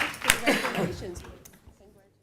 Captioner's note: applause